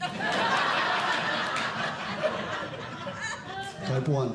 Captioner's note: audience Laughing